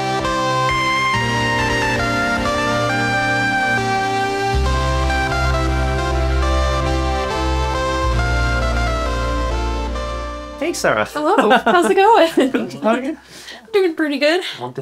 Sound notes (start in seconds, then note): 0.0 playful instrumental; 11.3 laughs